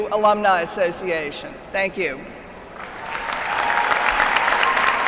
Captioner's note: applause